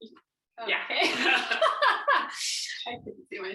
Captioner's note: laughs